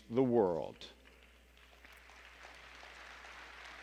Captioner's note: applause